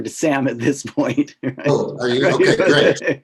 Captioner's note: laugh